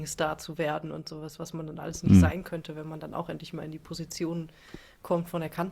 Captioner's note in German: räuspern